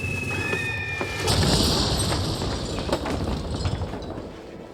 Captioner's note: screaming; rattling